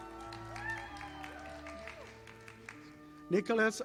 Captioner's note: audience applauding